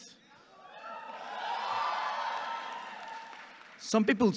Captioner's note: audience cheering and clapping